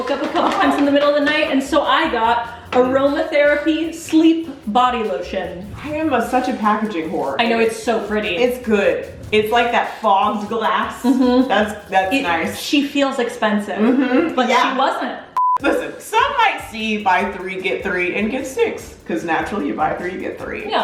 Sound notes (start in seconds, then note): 15.3 beeping